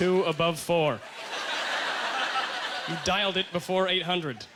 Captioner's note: audience laughter